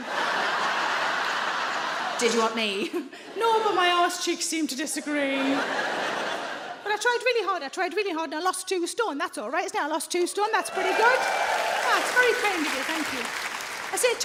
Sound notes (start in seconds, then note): 0.0 audience laughs; 3.0 laughs; 5.1 audience laughs; 10.6 audience cheers and applauds